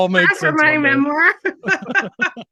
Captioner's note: laughing